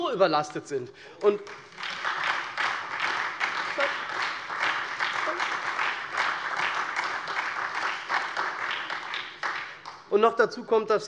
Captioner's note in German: Beifall SPD